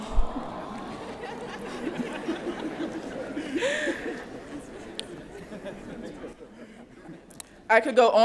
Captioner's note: laughter